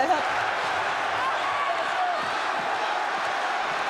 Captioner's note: crowd cheering